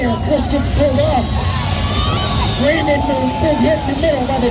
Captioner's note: crowd keeps cheering